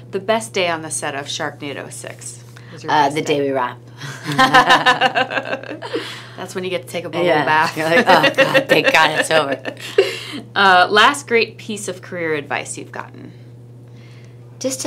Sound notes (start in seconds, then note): 4.2 laughs; 7.7 laughs